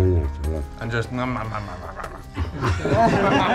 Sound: chews like a cannibal; everyone laughs

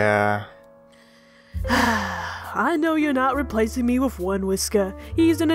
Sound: sighs

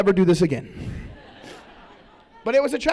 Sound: laughter

